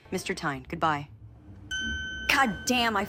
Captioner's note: elevator dings